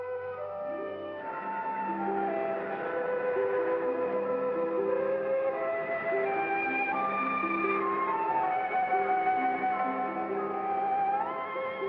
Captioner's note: melancholy music; wind blows hard